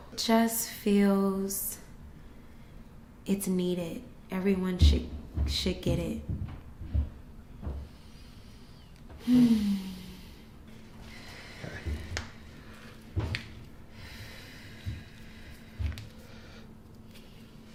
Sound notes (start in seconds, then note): 9.2 sighs; 12.2 joints cracking